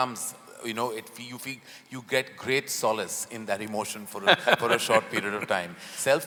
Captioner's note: Sadhguru laughs